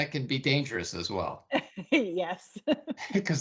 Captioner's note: laughing